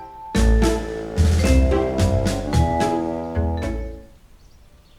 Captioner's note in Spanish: murmurando